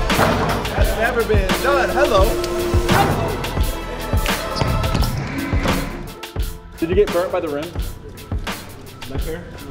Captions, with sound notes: (ball dunking) - That's never been done. Hello! (ball dunking) (shoes squeaking) (ball bouncing) (ball dunking) - Did you get burnt by the rim?